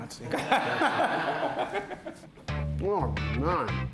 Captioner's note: all laughing